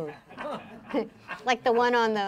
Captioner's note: laughing